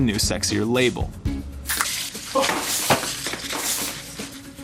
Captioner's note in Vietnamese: tiếng mở lon nước